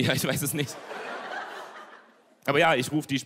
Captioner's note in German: Gelächter